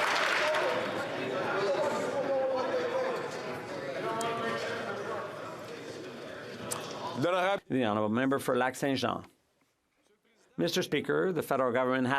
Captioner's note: some Applause